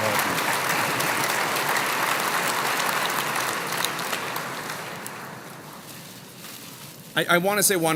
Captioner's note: applause